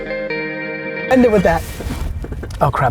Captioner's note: laughs